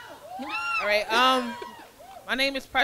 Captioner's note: crowd cheering